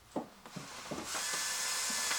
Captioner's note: sawing noises